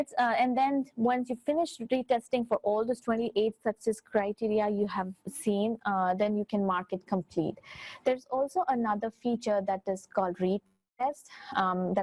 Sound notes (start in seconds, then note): none